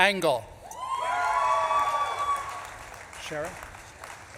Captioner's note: audience claps and cheers